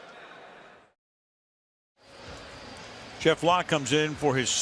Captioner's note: pa announcement